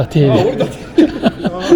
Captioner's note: laugh